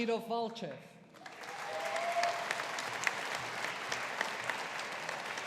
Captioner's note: audience applauding